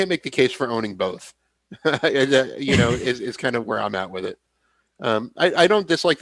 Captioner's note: laughs